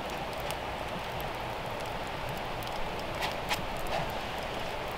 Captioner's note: fire crackling